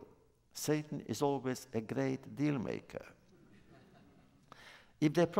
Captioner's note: laughter